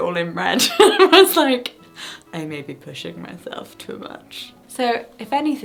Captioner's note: laughing